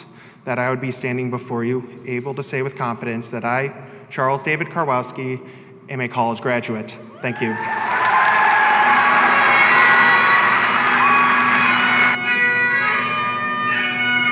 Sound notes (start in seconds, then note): 7.2 audience cheers; 12.1 bagpipes play